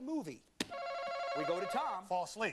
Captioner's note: alarm rings